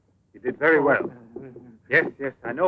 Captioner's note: Sacha mumbles